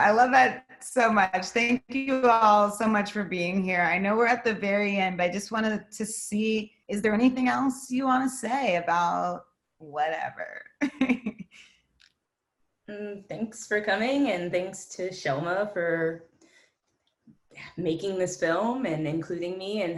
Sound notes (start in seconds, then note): 10.8 laughs